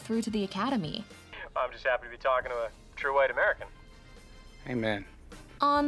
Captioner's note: on phone